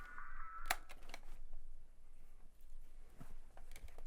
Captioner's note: tape recorder clicks